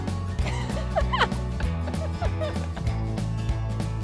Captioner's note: more laughter